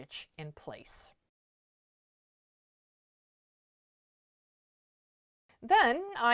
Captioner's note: no Sound Present